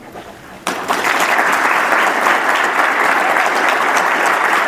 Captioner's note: audience applauds